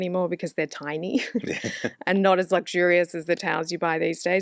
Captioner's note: laughs